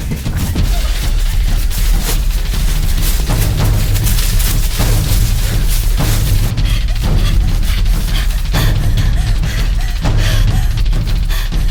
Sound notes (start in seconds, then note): 6.5 Martha gasping